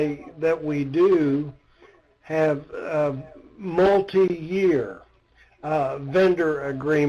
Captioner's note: coughs